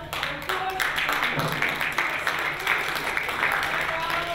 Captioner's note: applause